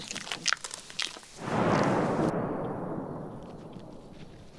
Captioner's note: explosion sound